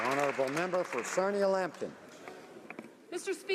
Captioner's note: applause